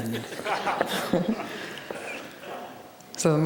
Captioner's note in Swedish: skrattar